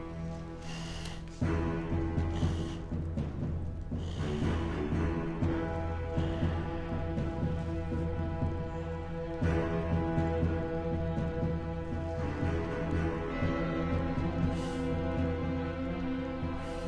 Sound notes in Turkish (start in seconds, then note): 0.2 Nefes sesleri